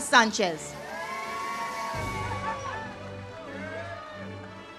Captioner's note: audience cheers